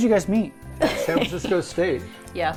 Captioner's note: laughs